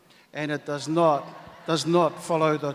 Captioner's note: audience laughs